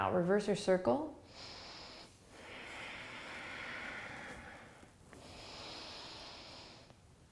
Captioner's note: breathing